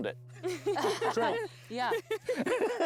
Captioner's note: laughter